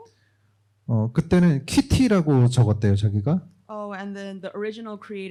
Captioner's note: speaking korean